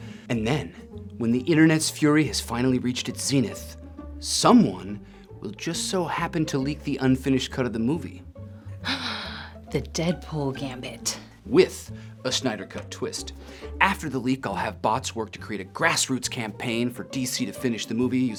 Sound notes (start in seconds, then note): 8.5 Batgirl gasps